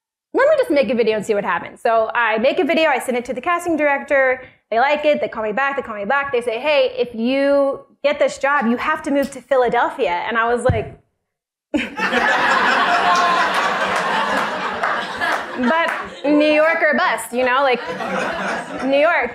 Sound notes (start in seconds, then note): 11.7 laughter